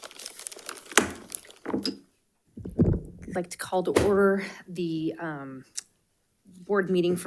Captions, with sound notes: (gavel thwacks) - I'd like to call to order the board meeting